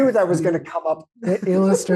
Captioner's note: laughs